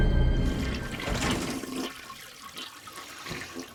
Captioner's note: toilet flushes